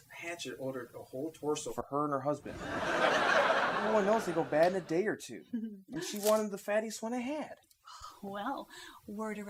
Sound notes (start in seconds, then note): 2.7 whispering